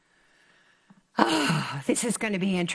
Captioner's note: sighs